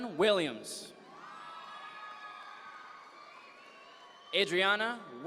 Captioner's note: audience members cheer